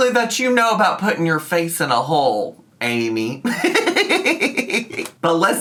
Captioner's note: laughs